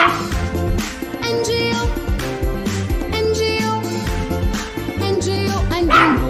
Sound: clap – Clap

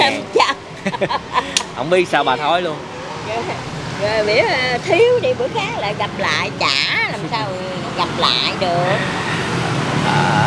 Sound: laughing

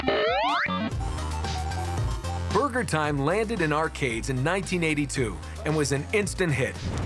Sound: arcade sounds

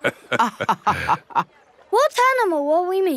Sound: both laughing

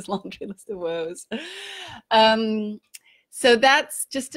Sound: laughing

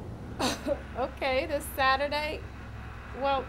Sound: laughs

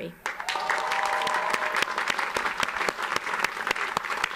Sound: audience applauds

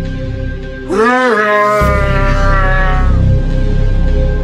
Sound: unicron screams in pain

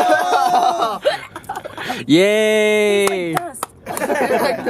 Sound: laughter; gags; laughter

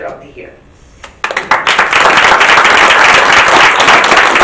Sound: audience claps

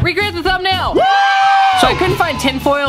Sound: crowd cheering

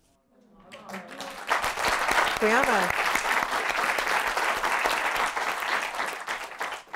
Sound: applause

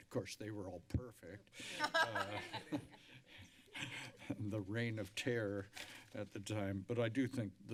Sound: laughter

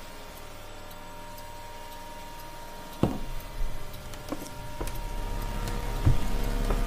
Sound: clock ticks; eerie atmospheric noise

